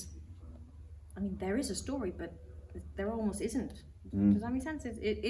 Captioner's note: hums in agreement